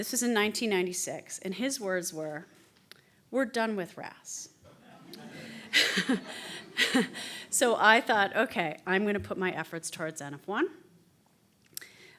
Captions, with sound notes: This was in 1996 and his words were, "We're done with RAS." (quiet laughter) So I thought "Okay, I'm going to put my efforts towards NF1."